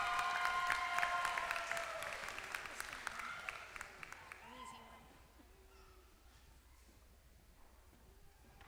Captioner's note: applause